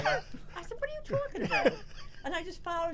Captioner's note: laughter